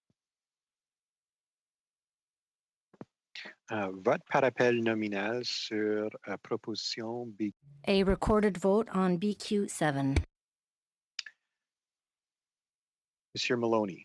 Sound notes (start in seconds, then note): 8.2 speaking French